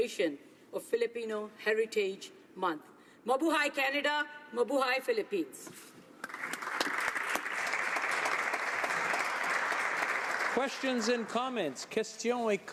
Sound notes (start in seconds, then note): 9.5 applause